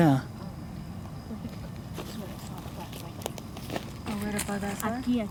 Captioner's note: women talking